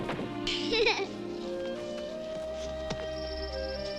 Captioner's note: Amy laughs